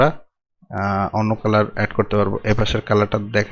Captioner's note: left click